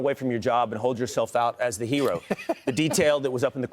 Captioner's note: laughter